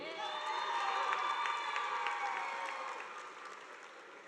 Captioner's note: audience applauding